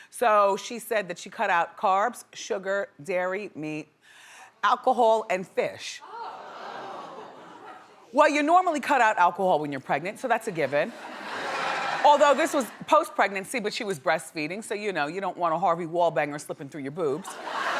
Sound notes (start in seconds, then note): 5.9 crowd gasping; 10.6 audience laughs